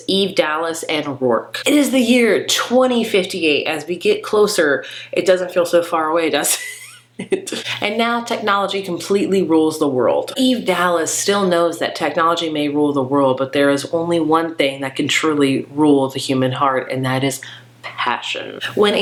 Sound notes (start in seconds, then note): 6.5 laughing